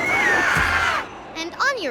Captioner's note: yelling